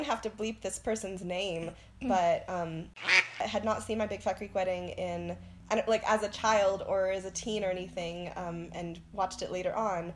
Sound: quack

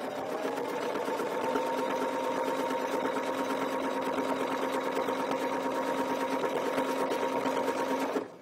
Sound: sewing machine whirring

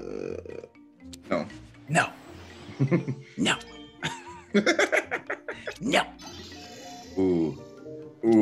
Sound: laugh

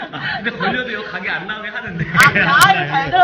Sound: laughing

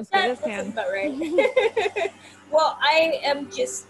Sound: laughs

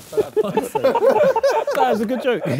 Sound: Sidemen laugh

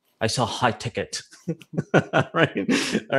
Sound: laughs

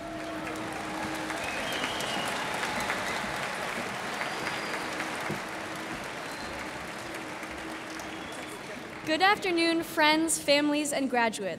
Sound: cheers and applause

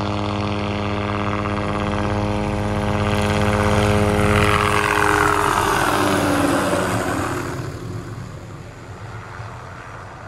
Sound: helicopter blades become louder and louder, then fade away again

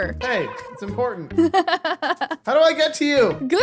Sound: laughing

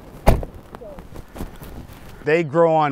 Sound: car door shuts

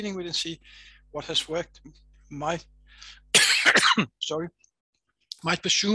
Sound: coughs

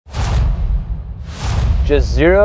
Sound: whooshing

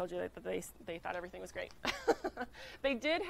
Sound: laughs

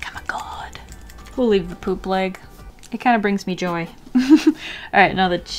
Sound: giggle

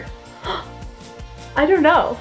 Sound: gasping

